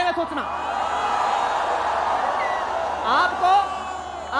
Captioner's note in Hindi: चियरिंग